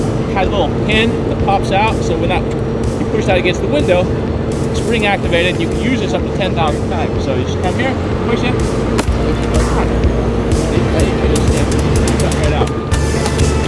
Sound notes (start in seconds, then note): 8.9 glass cracking